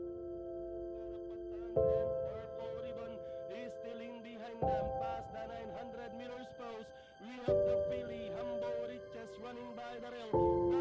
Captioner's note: commentator Speaking